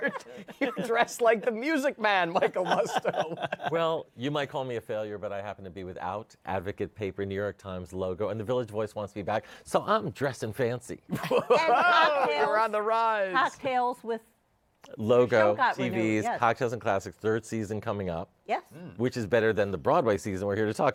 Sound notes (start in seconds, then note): 11.1 laughter